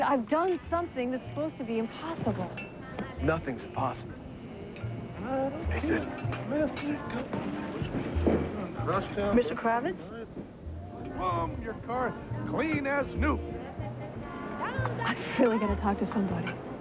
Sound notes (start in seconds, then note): 4.0 humming